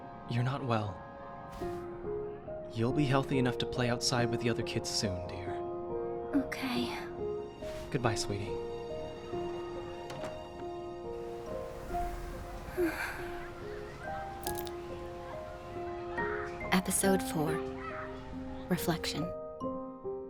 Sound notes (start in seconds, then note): 12.6 longing sigh; 14.4 glass cracking